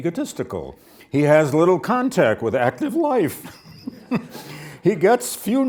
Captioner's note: laughs